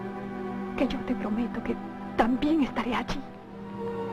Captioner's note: voice breaking